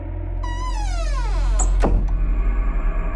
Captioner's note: door creaking shut